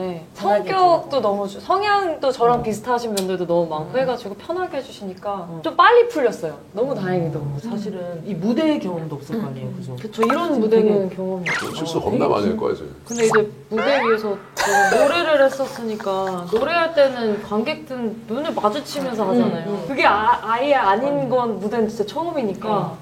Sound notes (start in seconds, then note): 13.8 laughs